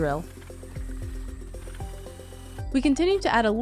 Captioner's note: drill whirring